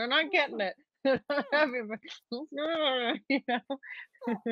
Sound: Deborah mumbles

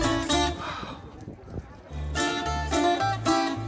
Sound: sighs

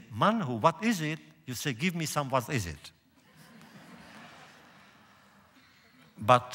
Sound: laughter

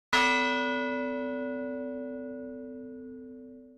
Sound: bell ringing

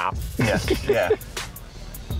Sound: Jon laughing

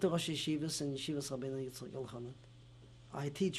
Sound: non-english

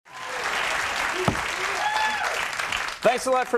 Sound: audience clapping

